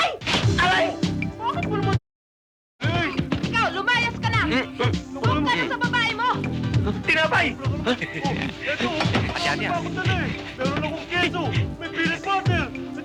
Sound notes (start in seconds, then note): 3.5 arguing in the background